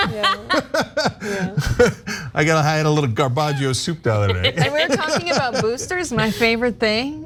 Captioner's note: laugh